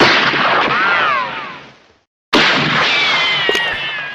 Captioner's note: gun shots richochet